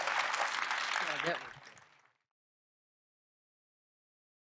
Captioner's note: applause